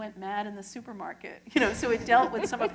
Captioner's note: laughter